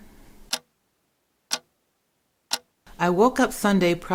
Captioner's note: ticking